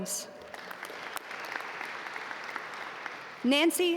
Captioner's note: audience applaud